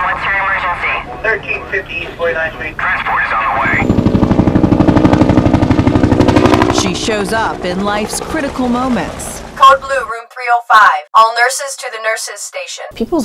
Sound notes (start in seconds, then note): 1.0 helicopter thrumming